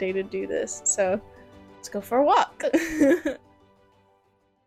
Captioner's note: laughter